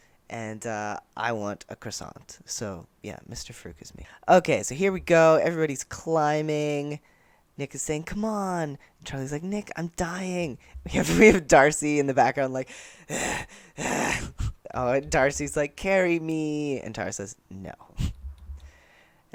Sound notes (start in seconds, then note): 12.7 heavy breathing